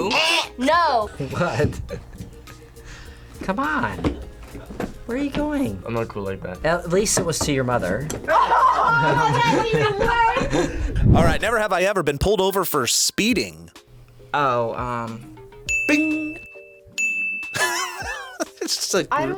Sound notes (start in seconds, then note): 1.0 laughs; 8.2 laughs; 15.6 bell rings; 17.5 laughs